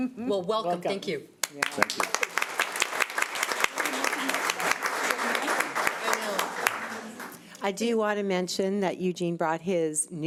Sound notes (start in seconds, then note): 1.4 audience applauding